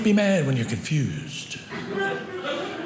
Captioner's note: audience laughing